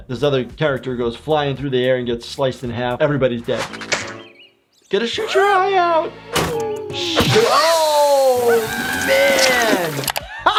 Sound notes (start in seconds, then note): 3.7 slingshot snapping; 6.3 Nutty smacking lips; 6.6 Nutty screaming